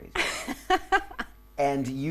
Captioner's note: laughing